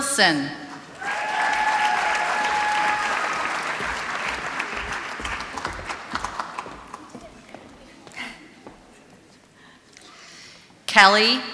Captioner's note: applause